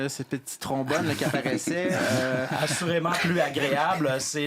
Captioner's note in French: rires